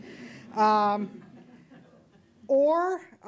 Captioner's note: audience chuckles